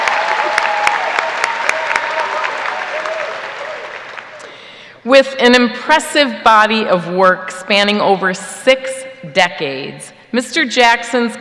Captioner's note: applause